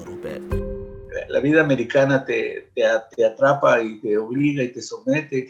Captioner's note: speaking Spanish